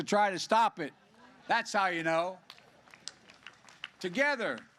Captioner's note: applause